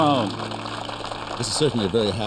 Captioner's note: applause